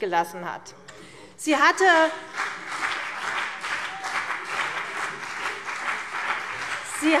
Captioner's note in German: Beifall CDU und BÜNDNIS 90/DIE GRÜNEN